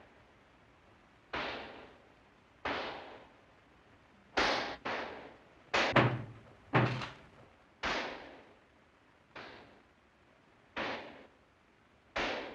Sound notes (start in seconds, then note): 5.8 pounding on door; 7.2 gunshots outside